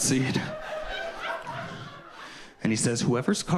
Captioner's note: audience laughing